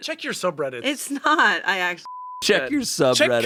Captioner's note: beep